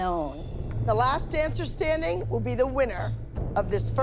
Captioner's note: none